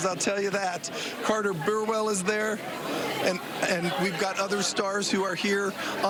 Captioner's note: laughter